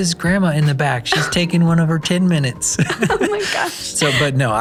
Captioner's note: both laughing